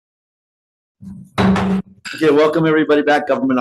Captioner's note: gavel bangs